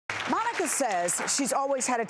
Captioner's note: audience applauding